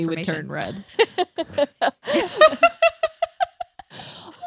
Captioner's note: everyone laughs